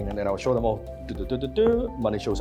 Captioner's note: mimics computer sounds